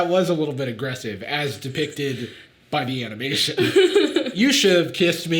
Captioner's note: Sadie laughing